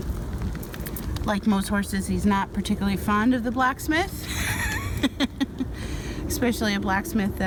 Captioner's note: laughs